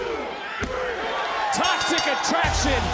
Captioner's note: bell rings